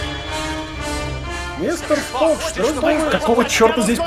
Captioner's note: angry rants